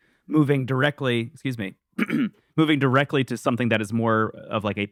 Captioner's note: clears throat